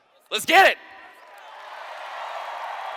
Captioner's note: cheers